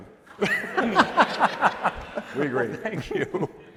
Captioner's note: laughter